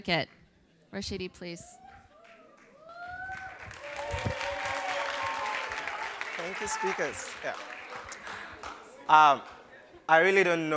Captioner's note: cheers and Applause